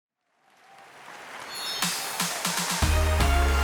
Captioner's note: audience applauding; upbeat music